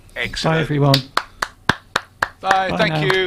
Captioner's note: applause